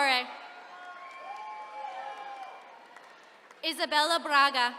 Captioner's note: attendees cheering